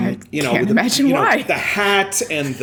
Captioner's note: laughter